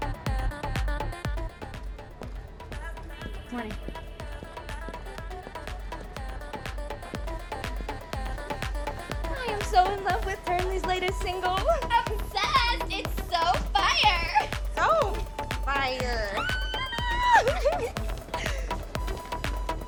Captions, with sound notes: Morning. (pop music) - I am so in love with Turnley's latest single. - Obsessed! It's so fire! - So... fire. (cheering)